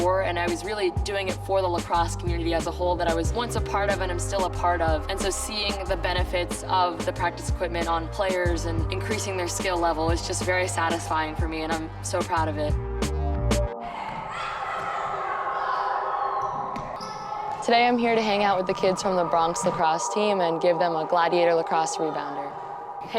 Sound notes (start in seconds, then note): 13.9 players shouting